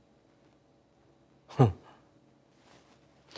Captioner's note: chuckles